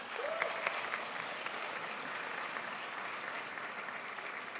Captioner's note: crowd applauds